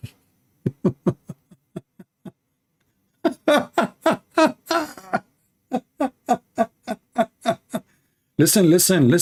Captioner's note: Ketawa